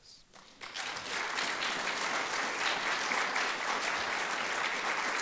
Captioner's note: audience applauds